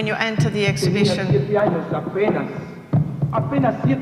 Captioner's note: speaking spanish